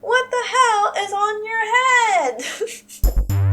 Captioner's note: laugh